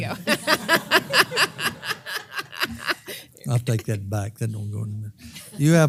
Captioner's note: laugh